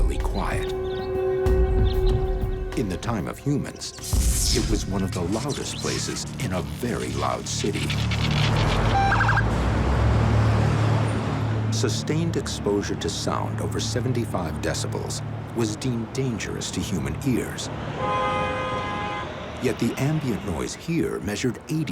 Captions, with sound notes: [ominous music] In the time of humans, it was one of the loudest places in a very loud city. [sirens chirping] Sustained exposure to sound over 75 decibels was deemed dangerous to human ears. [horns honking] Yet the ambient noise here measured 80 decibels.